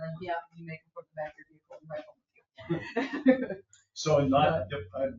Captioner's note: speaks distantly